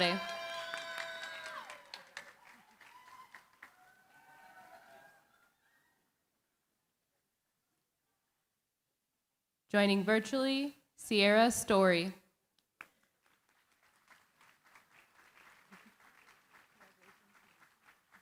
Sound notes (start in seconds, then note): 0.0 cheering, applause; 12.8 applause